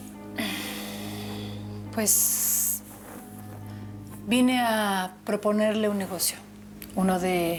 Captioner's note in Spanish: exhala